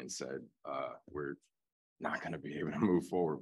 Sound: laughter

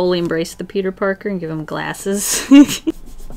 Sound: laughs

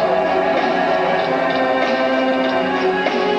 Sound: another weird moan

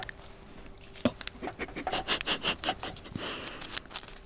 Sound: laughter

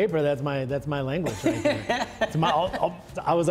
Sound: laughing

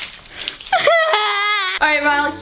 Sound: crying

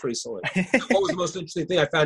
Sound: laughing

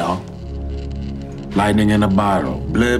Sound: electricity buzzing

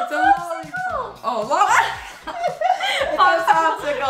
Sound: laughing

